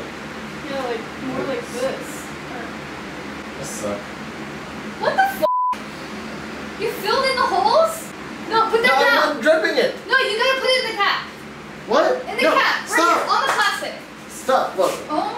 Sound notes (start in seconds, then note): 5.4 beeps